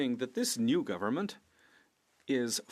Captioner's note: speaking French